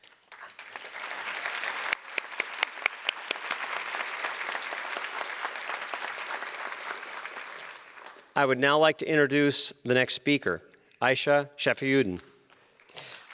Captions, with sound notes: (audience applause) I would now like to introduce the next speaker, Ayesha Shafiuddin.